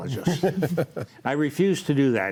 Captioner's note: laughs